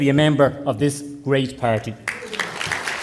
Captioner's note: applause